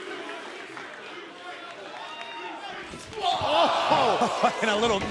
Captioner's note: fans chanting